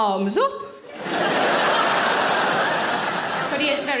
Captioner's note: audience laughing